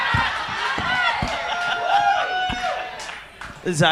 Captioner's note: audience laughs